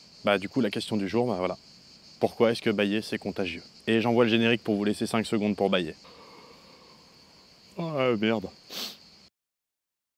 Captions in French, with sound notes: Ben du coup, la question du jour, bah voilà : Pourquoi est-ce que bâiller, c'est contagieux ? Et j'envoie le générique pour vous laisser 5 secondes pour bâiller. *bâille* Aah merde, heu.